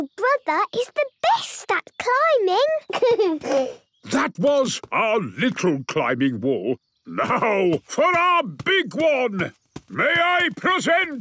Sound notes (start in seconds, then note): 2.8 giggles